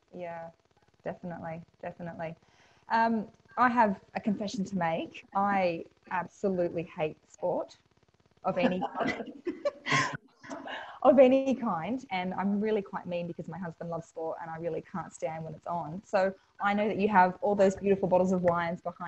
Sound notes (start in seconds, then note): 8.5 both laugh